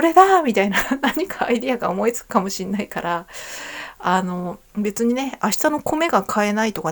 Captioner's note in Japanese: 息をのむ音